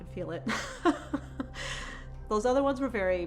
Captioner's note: laughs